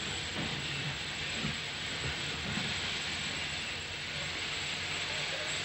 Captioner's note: train passing